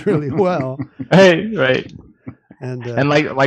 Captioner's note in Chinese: 笑声